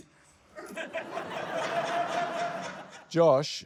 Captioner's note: laughter